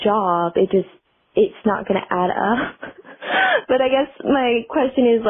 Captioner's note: laughter